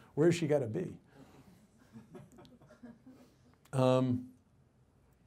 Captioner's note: audience chuckles